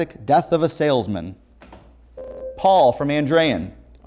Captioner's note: ringing